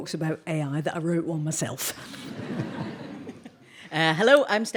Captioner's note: audience laughing